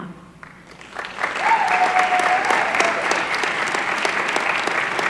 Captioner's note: applause